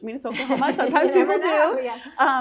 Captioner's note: laughing